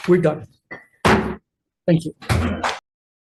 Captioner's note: gavel bangs